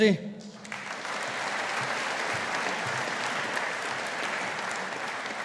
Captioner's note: audience applauding